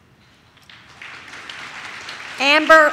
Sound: audience claps

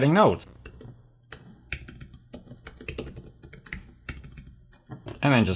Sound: typing Notes

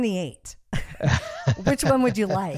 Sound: both laugh

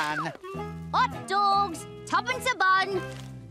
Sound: cockney accent

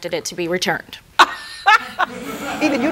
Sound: laughs

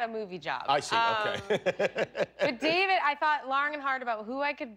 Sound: laughter

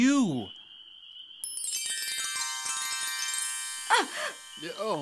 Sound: sound of chimes

